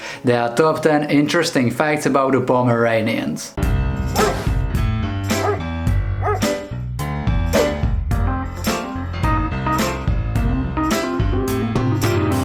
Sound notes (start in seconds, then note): 3.6 upbeat music; 4.1 barking